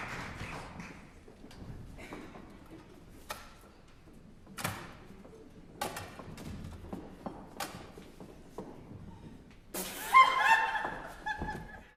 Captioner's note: the two GIRLS burst out laughing